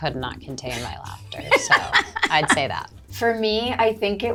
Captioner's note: Zoe laughs